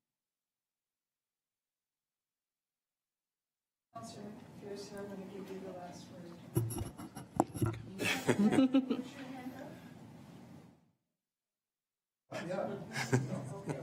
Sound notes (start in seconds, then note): 6.6 laughing; 10.0 woman mumbling